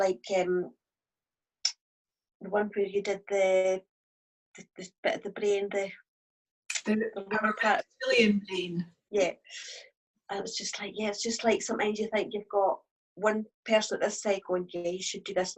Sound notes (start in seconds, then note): 6.9 mumbles